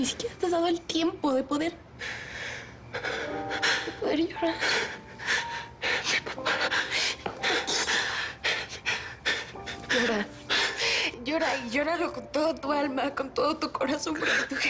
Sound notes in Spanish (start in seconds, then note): 6.1 Llorando